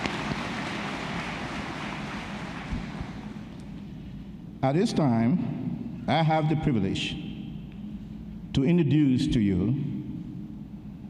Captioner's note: applause